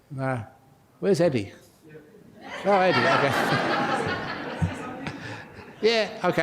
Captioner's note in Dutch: lachen